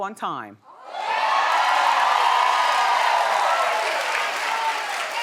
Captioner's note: audience cheering